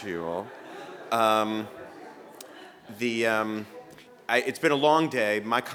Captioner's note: laughter